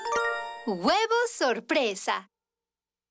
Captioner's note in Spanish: narradora leyendo